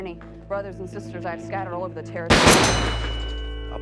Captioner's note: gun shots